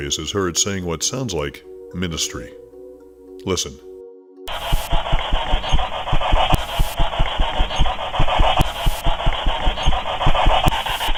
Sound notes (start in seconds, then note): 6.0 faint Voice